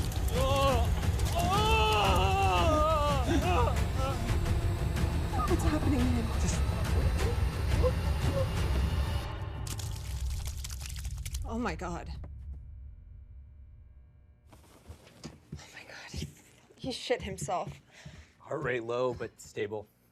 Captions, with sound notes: (Patrick moaning) - What's happening to him? - Just wait. (blood squelching) - Oh my God! Oh my God. He shit himself. - Heart rate low but stable.